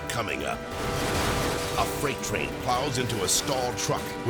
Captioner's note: train horn blaring; vehicles crash